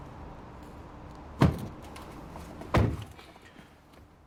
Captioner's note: doors shut